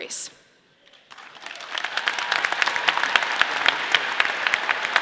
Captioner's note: audience applause